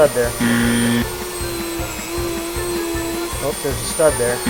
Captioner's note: chime dings